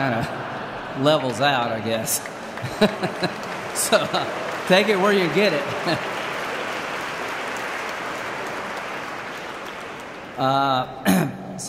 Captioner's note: laughter; applause; laughs